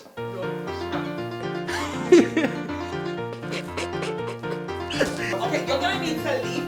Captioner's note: laughing